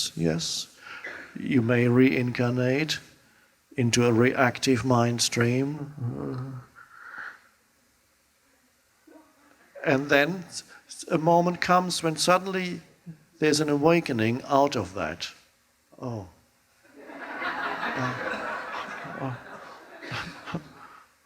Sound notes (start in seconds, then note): 16.9 audience laughs